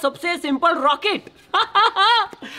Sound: laughing

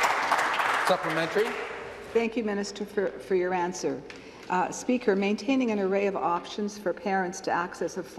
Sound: applause

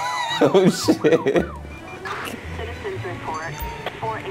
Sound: laughs

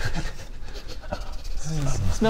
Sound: Bob sniffing

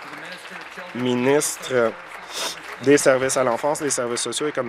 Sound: applause

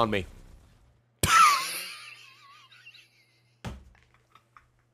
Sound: laughs

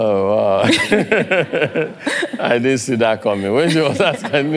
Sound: laugh

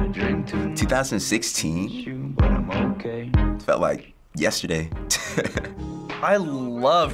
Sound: chuckles

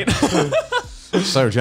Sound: laughs

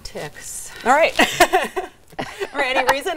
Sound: laughing

